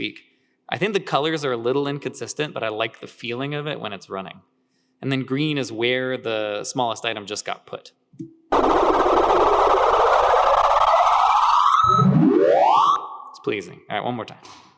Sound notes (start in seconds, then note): 8.5 ascending distorted electronic whirring